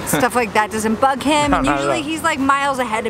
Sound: chuckles

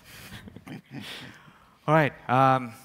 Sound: laughs

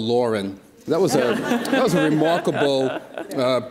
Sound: audience laughs

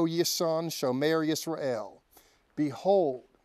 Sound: speaking Hebrew

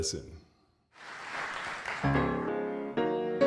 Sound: audience clapping; upbeat piano music

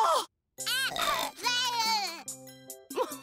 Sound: baby voice; chuckling

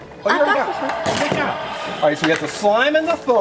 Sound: dinosaur growls

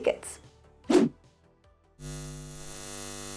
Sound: air whooshing; electricity humming

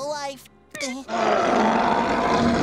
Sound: roaring

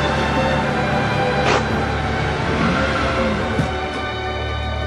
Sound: handbrake clicks, engine revs

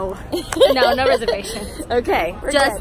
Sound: laughs

